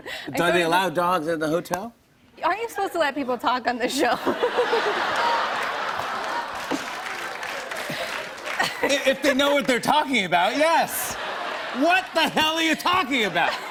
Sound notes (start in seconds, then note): 4.2 laughter and applause; 13.5 laughter